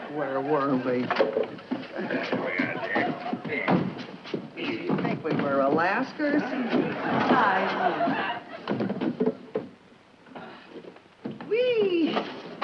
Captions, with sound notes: - Where were we? - There we are, dear. - Where does she think we were? Alaska or something? (laughter from audience) - Weee- oh!